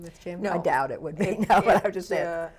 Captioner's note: laughs